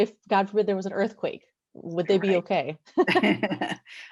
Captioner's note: laughs